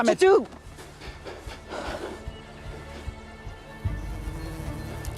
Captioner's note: Anthony and Kate breathing heavily; bee buzzes